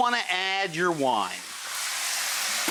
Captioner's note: steaming